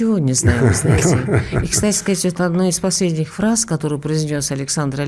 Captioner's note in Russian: смех